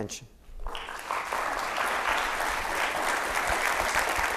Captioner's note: audience applauds